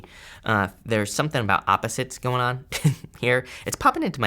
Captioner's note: chuckles